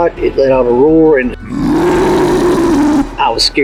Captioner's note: creature roars